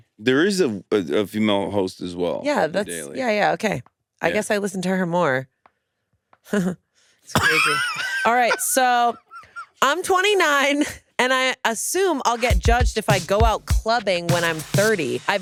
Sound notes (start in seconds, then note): 7.3 laughs; 7.3 chuckles